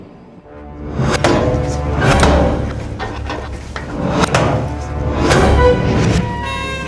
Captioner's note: tense music; door latches clanking